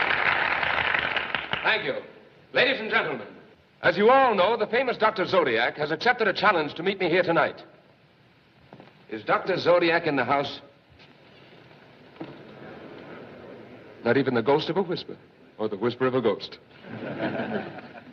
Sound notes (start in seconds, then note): 12.0 murmuring; 16.7 crowd Chuckling